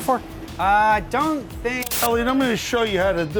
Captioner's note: static